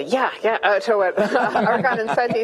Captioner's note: laughing